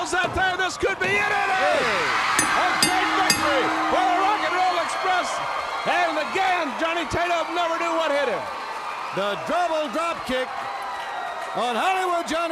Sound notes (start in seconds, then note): 0.0 crowd chatter; 0.0 crowd cheering; 4.1 bell ringing